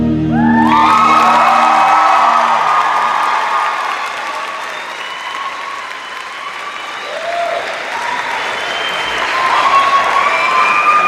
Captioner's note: cheers and applause